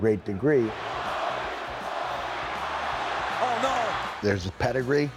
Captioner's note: applause